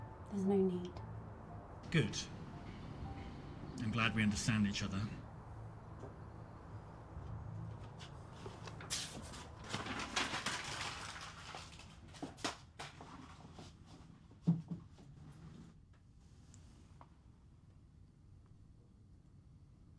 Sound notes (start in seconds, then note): 8.5 paper crumpling; 12.4 paper clattering